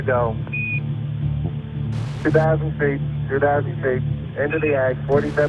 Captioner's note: voiceover